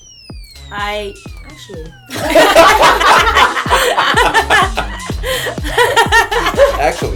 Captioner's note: laughter